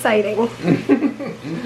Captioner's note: chuckling